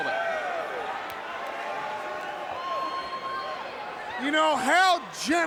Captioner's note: crowd chatter